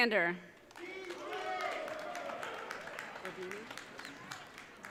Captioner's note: audience cheering